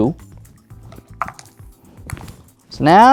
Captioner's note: dice clattering in cup; dice rattling